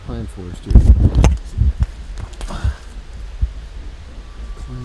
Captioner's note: camera clattering